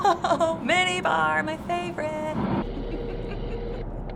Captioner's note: chuckles; singsong